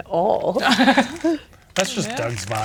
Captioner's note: players laughing